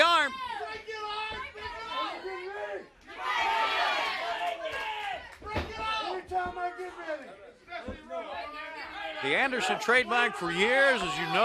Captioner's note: crowd chatter